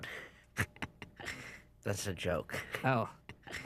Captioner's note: snickers